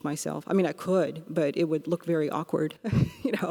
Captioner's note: laughs